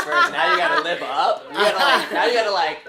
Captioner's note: laughs; laughter